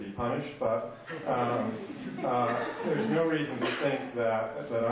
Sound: laughter

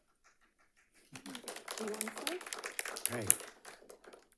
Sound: audience applauds

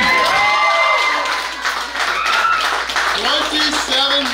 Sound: crowd cheering

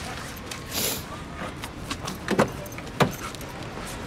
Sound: sniffling

